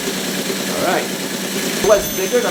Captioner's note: loud teletype clatter